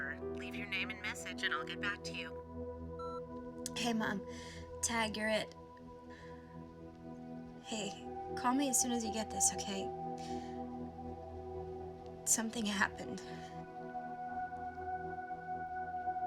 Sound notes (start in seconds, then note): 3.0 voicemail beeps